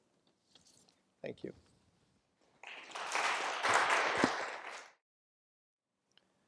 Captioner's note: applause